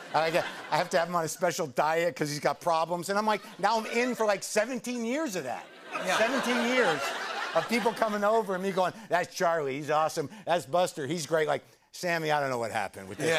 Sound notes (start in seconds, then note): 5.5 laughter